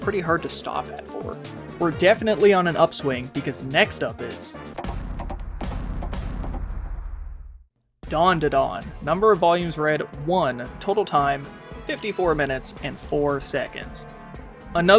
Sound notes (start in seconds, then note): 4.7 DANDADAN logo slam